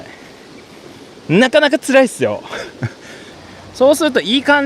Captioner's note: laughs